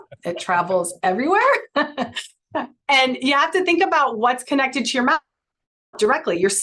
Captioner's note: chuckles